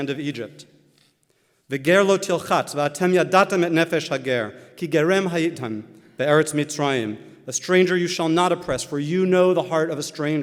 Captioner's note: Hebrew